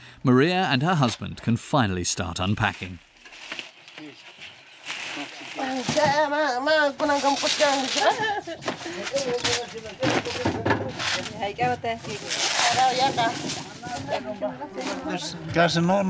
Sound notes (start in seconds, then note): 5.9 speaking in foreign language; 10.7 people chattering; 15.7 villager speaking in foreign language